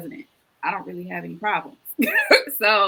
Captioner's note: laughs